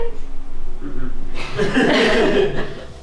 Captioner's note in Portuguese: risadas